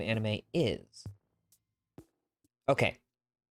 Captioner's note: brief pause